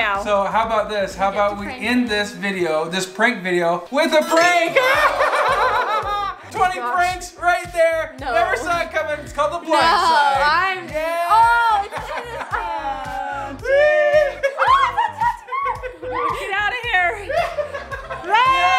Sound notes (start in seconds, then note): 4.4 laughs; 13.6 screams